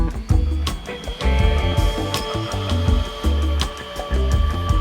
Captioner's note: sander buzzing